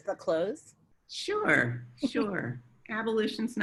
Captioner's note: chuckles